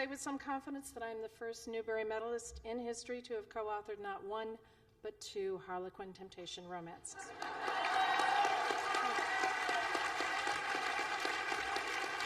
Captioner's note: laughter and Applause